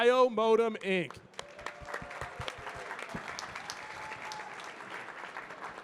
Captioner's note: audience cheering and clapping